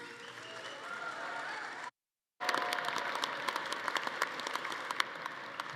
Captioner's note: attendees cheering; everyone applauding